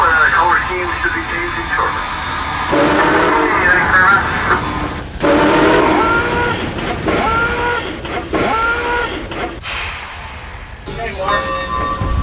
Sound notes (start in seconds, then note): 2.8 radio: Thanks very much